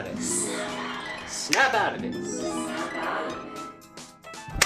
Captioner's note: snaps